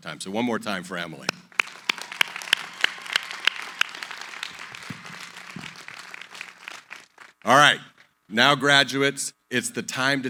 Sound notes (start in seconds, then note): 1.3 applause